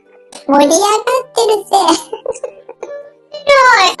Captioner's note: laughs; laughs